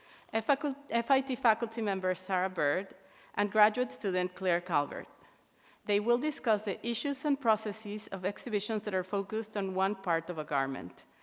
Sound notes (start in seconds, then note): none